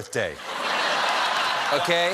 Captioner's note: laughter